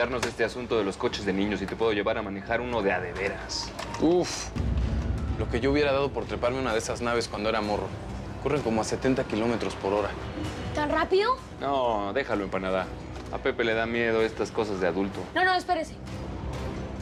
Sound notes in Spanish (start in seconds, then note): none